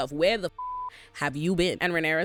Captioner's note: beep